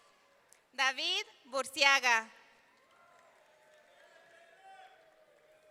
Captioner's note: audience cheering; audience cheering